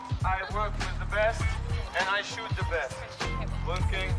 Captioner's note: people chattering